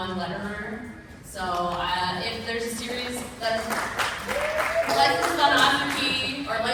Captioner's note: applause